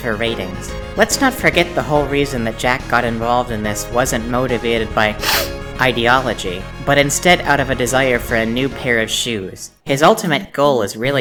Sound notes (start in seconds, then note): 5.2 sniff